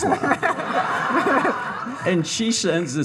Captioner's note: all laughing